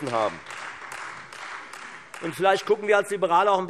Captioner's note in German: Beifall Freie Demokraten